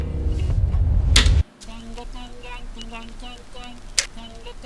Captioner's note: hard click